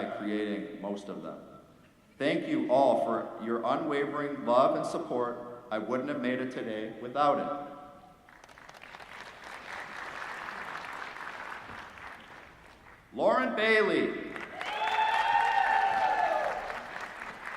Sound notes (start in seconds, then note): 8.2 applause; 14.3 applause